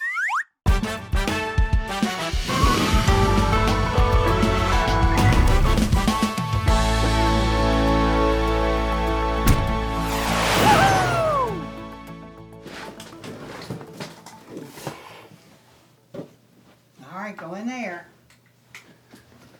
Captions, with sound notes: (whistle sliding) (jazzy horns music) (whoosh skidding) (jazzy band music) (thudding) (jazzy horns music) (soft thudding) (energetic music) (swift whooshing) -: Whoo hoo! (rummage shuffling) -: All right, go in there.